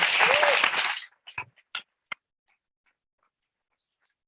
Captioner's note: audience clapping